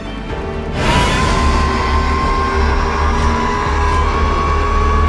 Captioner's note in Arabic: زئير العقرب